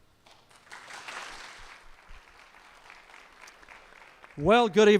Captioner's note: applause